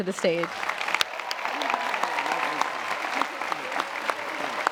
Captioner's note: applause